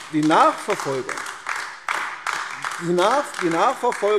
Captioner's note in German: Beifall AfD